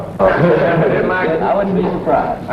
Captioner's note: guys laughing